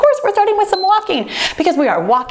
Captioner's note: timer beeps